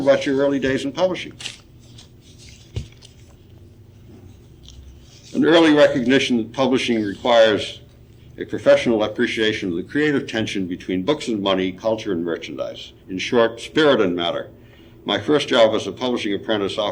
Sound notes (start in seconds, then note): 3.1 papers rustling